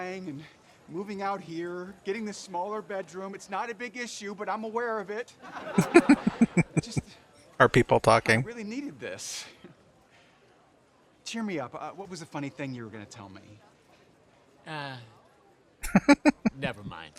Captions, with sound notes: [Chuckling] Are people talking? [Chuckling]